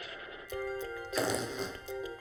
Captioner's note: student farts